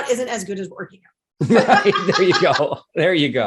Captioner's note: everyone laughs